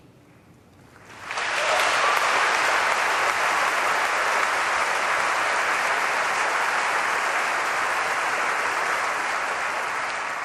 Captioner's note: applause